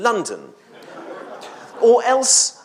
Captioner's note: audience laughs